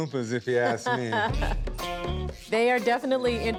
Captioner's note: laughs